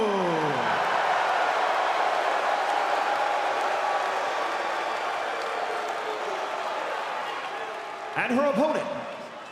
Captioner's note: crowd cheering